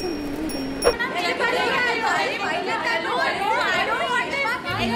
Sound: indistinct chatter

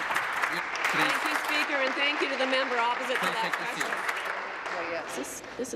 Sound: applause

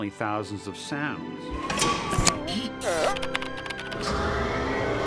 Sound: electronic warbling; hydraulics whining

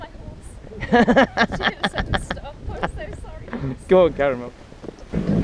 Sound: laughter

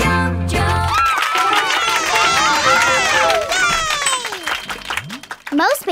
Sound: cheering

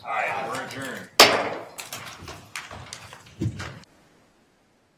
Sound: gavel strike

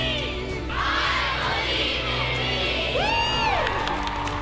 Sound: crowd; cheering

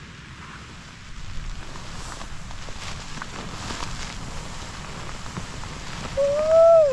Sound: rustling around; light rain on tent; over-the-top yawning

